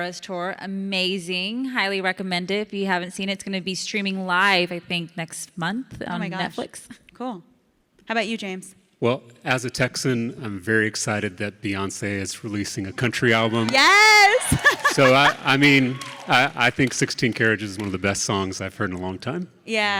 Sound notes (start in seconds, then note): 13.2 audience cheering; 13.8 Ilana laughs